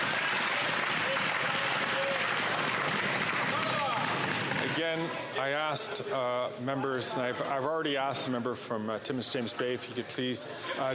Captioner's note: some Applause